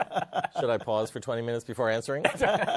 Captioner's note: laughter